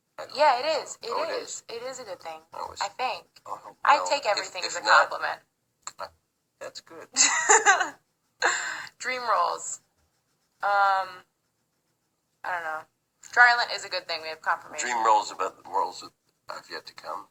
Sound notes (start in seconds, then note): 7.1 laughs